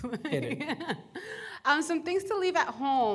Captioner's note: laughter